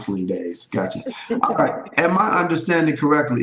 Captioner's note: chuckles